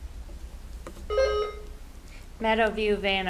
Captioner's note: buzzer ringing